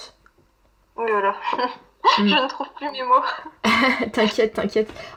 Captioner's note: laughs